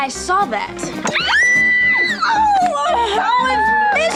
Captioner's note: Mia and Asana squeal